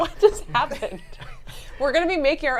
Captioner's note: laugh